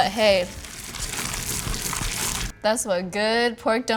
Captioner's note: meat mushing